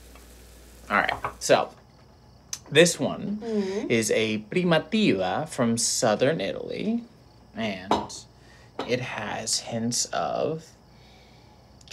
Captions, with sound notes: - All right, so, this one is a (speaks foreign language) from Southern Italy, and it has hints of...